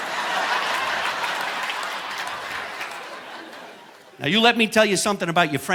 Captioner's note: audience laughing